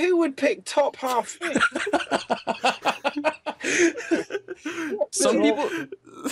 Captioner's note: laughter